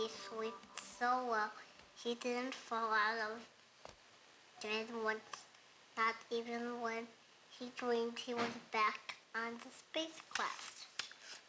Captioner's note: baby talk